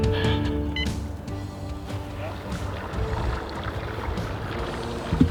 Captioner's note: machine beeps